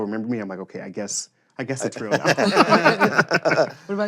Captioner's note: laughter